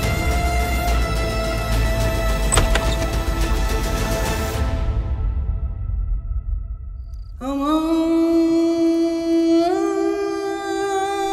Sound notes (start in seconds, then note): 2.4 door opening; 7.2 prayers